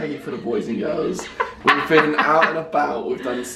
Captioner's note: laughs